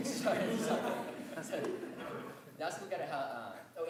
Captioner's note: laughter